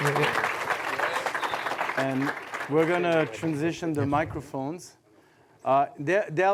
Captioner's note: applause